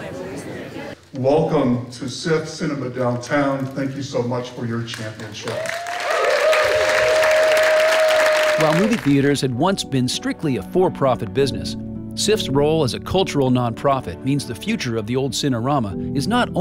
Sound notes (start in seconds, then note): 5.2 cheers and applause